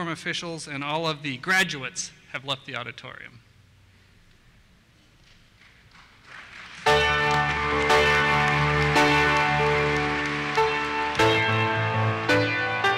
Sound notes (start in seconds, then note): 5.6 applause; 6.8 dramatic music